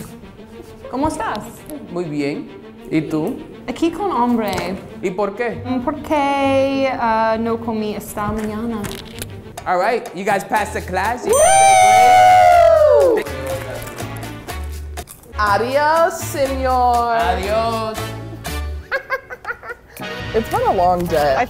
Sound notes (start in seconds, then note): 0.1 speaks in Spanish; 11.3 both screaming; 16.0 speaks in Spanish; 18.8 laughs